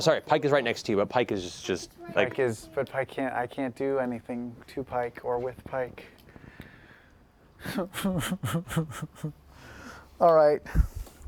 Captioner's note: fake sobs